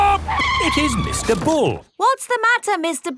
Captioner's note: tires screeching